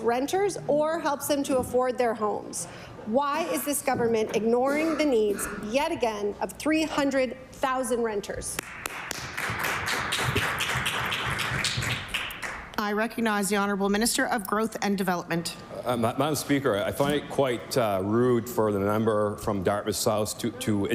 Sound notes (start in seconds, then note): 12.0 some Applause